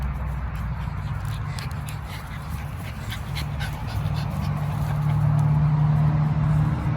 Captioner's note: traffic noise continues in the background; dog pants enthusiastically